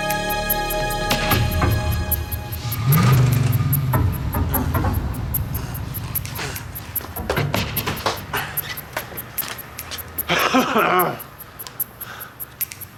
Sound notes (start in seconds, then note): 10.2 coughs